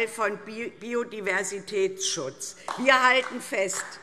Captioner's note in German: Beifall DIE LINKE